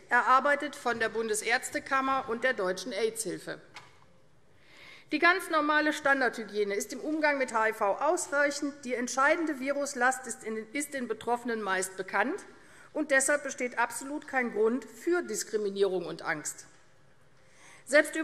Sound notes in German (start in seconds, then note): none